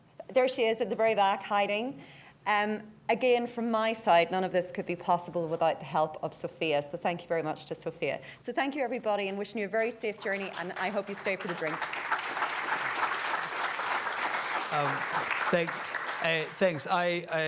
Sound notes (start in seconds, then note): 12.1 audience applauds